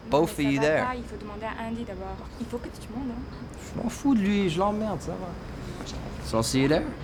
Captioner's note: chattering ominously in French